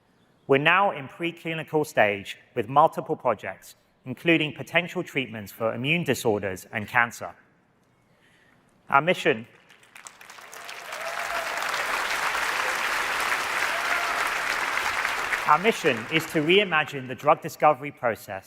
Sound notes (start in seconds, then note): 9.5 applause